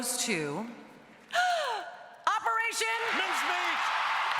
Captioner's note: gasps